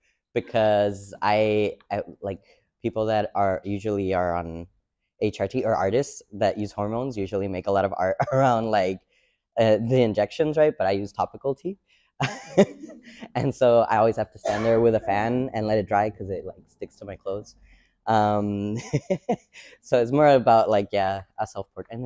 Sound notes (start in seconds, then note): 11.5 and audience laughs; 18.6 giggles